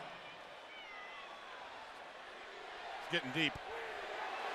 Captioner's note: crowd chatter